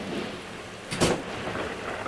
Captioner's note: door Slam